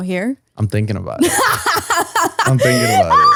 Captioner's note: laughs